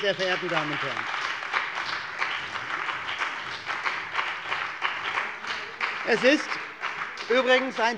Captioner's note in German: Beifall bei der CDU und dem BÜNDNIS 90/DIE GRÜNEN